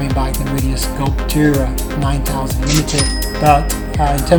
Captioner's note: dings